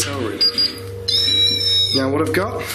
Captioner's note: squealing